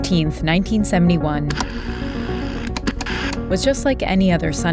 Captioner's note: soundbite of tv static